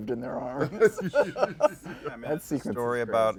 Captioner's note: laughs